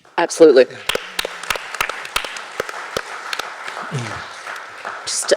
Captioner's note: audience applauding